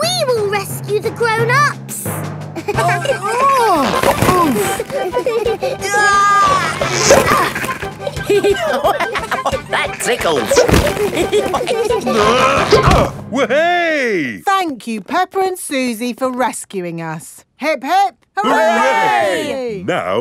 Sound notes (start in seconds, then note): 2.8 giggling; 2.8 grunting; 5.7 giggling; 8.5 laughing; 11.2 all giggling; 12.0 grunting